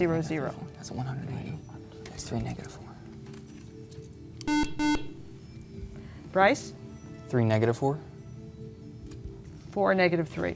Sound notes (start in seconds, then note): 4.4 beeping